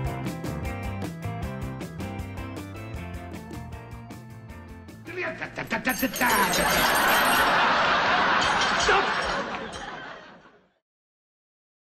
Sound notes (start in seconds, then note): 5.6 spoon clinks in glass; 6.3 audience laughs